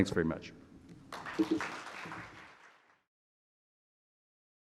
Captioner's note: audience clapping